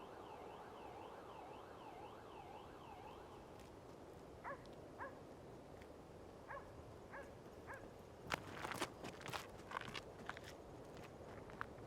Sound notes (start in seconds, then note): 0.0 distant siren; 4.5 dogs barking